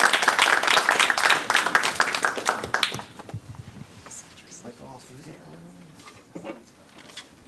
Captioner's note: applause